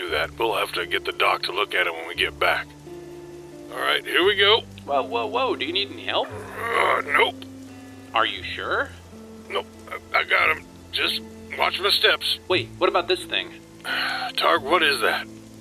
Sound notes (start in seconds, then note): 6.0 groan; 9.6 strained; 14.0 strained